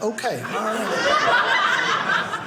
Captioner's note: audience laughing